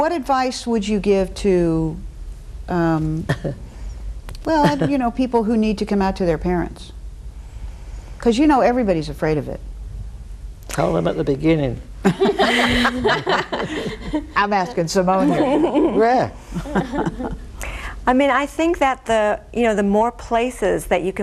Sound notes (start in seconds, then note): 12.0 all laughing